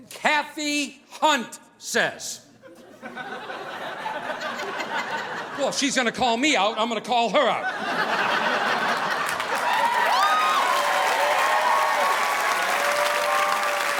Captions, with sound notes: Cathy Hunt says, Well, if she's gonna call me out, I'm gonna call her out. (audience applauding)